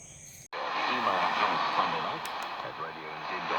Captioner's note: radio sound